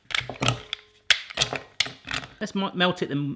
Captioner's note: clacking